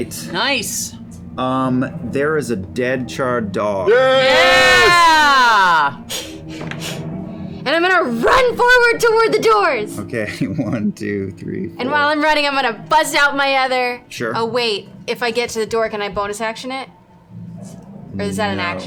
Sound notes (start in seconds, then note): 4.0 cheering; 6.0 panting